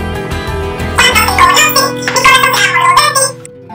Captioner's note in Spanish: Voz acelerada